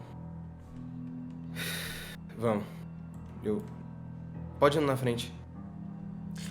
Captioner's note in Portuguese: suspiro